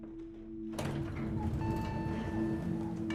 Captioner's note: elevator dings